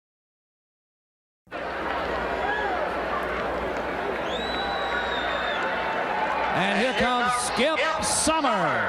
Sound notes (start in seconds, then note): 1.5 crowd cheering